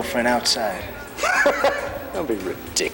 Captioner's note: laughing